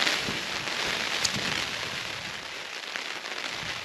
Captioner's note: rain on canvas